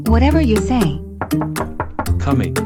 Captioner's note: door knocking